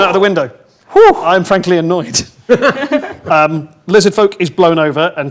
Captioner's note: group laughs